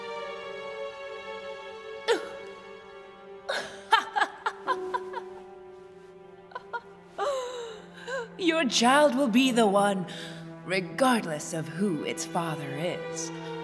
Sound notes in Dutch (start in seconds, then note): 3.5 Elisabeth lacht